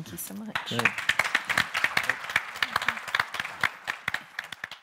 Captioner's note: people applaud